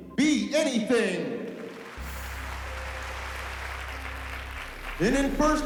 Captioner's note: applause